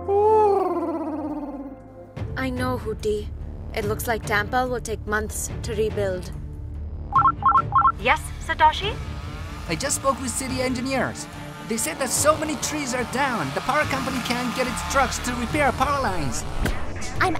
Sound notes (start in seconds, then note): 0.3 Huti hoots; 7.3 ringing